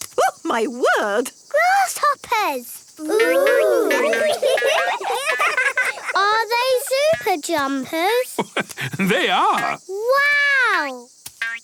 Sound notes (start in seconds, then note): 3.0 laughing; 8.0 laugh